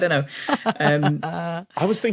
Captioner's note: laughs